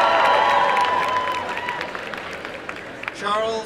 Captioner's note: applause and cheering